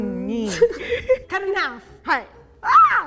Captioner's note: speaking in Japanese; giggling; speaking in Japanese